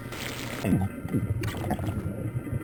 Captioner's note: choking; lava gurgling